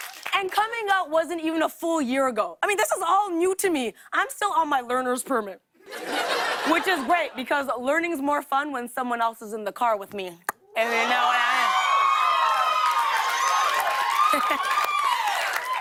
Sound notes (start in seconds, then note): 0.0 cheers and applause; 5.8 laughter; 10.8 cheers and applause